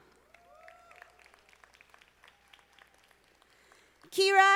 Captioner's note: audience applauding